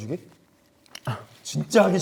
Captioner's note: silent